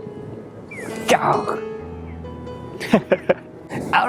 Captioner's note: lion roar in Japanese